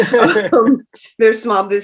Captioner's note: both laughs